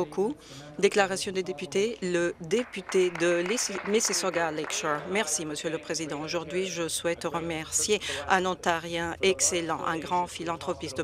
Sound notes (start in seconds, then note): 0.6 some Applause